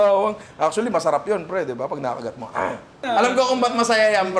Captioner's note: growls